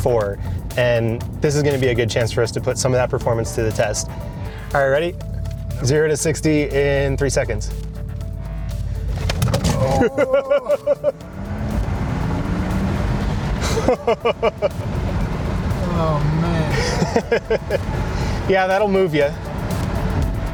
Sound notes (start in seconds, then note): 9.7 laughing; 11.4 car accelerating; 13.6 laughing